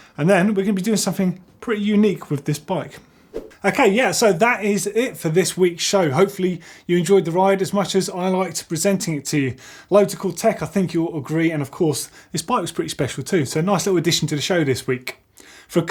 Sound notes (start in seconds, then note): 3.3 whoosh